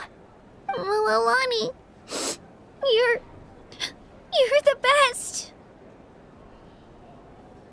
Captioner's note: sniff